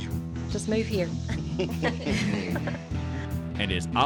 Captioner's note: chuckling